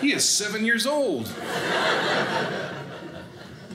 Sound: audience laughing

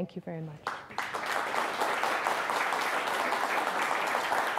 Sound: audience applauds

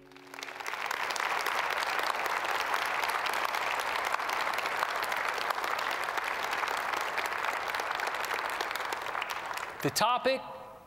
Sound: applause

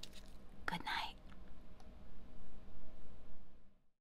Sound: whispers

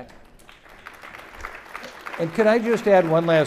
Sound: audience clapping

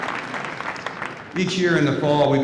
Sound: applause

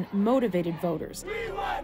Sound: cheers and Applause

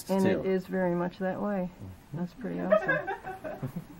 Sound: twin laughter

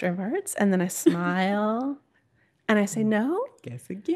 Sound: laughing

